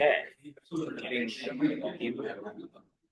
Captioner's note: people chattering